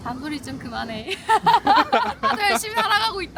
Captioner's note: laughs